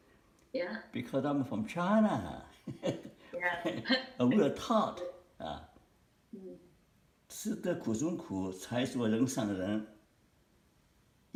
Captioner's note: Mandarin